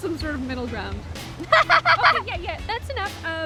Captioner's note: Fern laughs